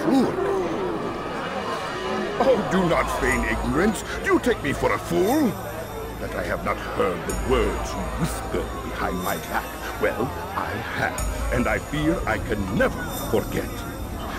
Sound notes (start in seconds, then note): 1.2 crowd becomes angry